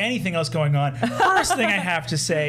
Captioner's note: laughing